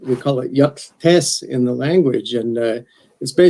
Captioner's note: speaks athabaskan